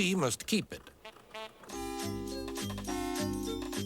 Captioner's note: honks